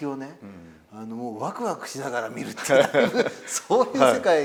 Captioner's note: laugh